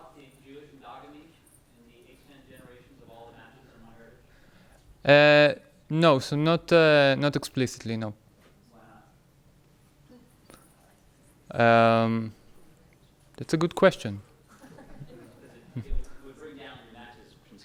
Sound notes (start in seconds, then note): 0.2 speaking off microphone